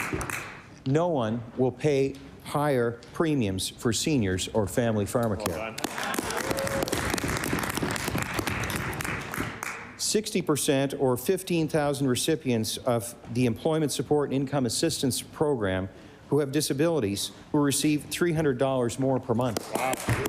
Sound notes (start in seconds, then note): 0.6 applause; 10.7 applause